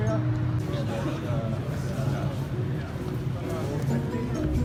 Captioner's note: crowd murmuring